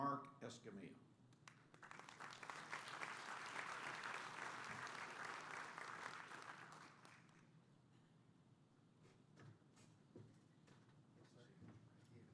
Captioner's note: applause